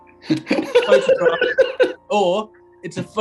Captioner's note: giggling; sniggering